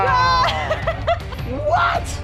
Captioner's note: laughs